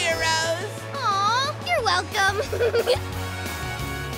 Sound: laughing

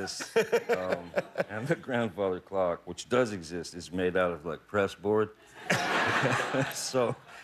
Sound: laughter

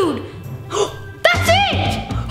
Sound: gasps

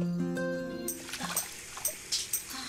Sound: water splash

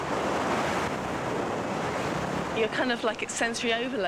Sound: strong winds

